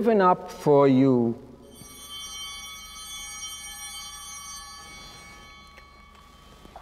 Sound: altar bell ringing

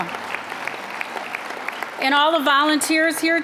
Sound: applause

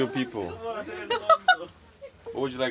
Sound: strange Laughter

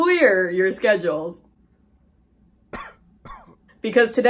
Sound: deafening silence followed by a single cough

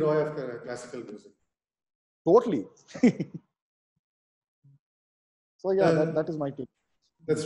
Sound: laughs

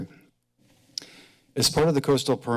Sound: clicks tongue

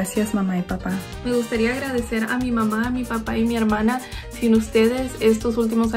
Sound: speaks in foreign language

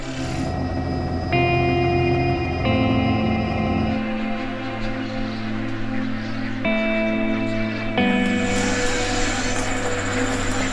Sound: helicopter, music, and wading bird colony noises

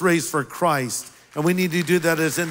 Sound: applause

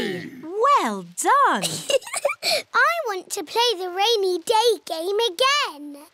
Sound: laughs

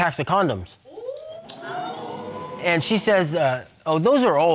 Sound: audience exclaiming

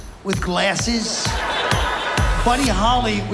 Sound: laughter

